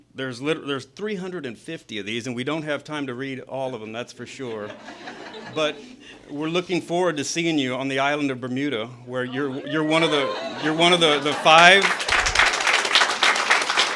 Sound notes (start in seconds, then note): 4.4 laughter; 10.9 applause